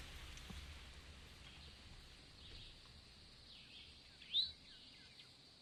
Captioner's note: birds chirping